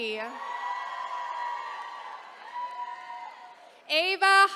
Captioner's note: attendees cheering